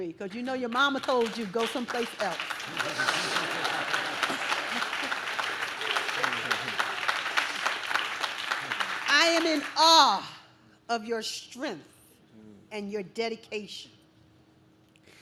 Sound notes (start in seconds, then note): 2.3 audience laughs; 2.9 audience claps